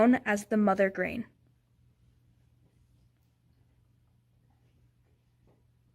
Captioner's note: players discuss in whispers